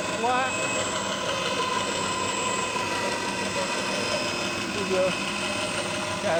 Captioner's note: saw whirring